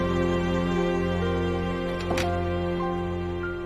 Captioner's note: door opens